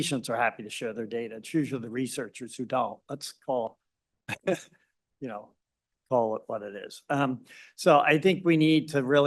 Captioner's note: laughs